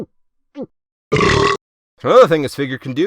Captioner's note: belches